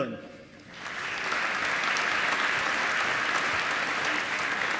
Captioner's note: applause